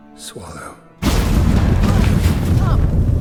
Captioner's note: portal roars, rumbles